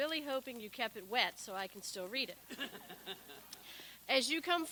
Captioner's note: people laugh